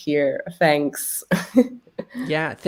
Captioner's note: laughs